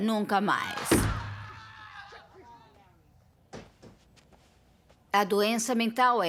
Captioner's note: yelling, screaming